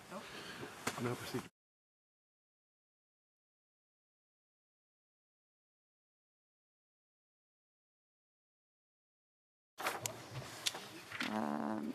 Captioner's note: speaking French